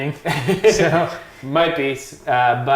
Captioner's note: laughing